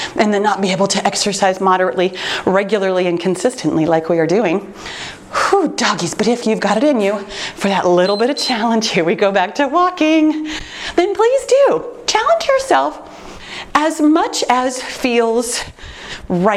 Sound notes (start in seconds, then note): 8.0 timer beeps